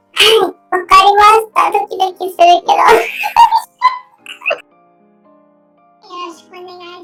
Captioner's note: laughs